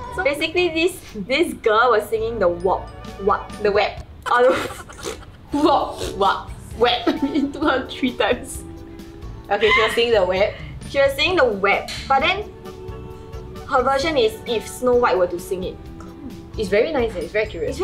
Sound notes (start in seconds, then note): 4.2 laughs